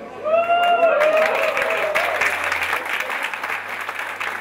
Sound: team cheering and clapping

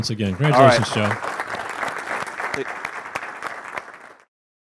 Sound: audience claps

